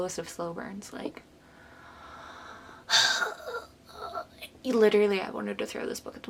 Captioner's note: pained sighs